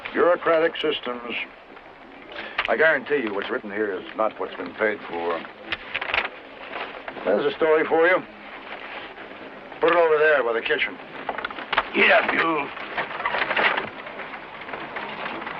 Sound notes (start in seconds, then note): none